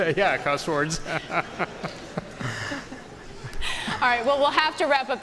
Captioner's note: laughter